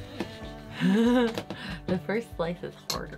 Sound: laughing

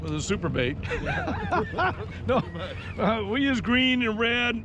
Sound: chcukling; laughing

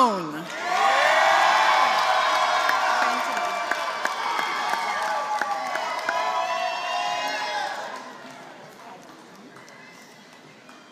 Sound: applause

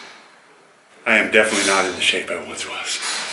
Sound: breathing heavily

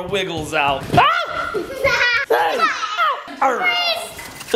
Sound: yelling

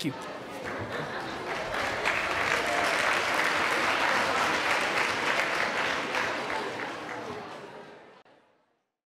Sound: applause

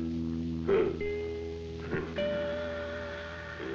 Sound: grunting

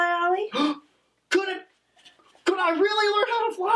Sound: gasps

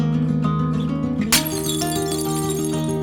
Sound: falling Plates crashing

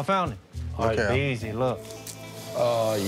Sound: lizard hisses

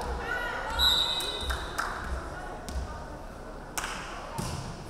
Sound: referee whistling

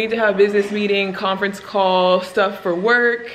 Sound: water running

